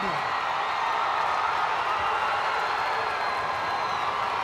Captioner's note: audience cheering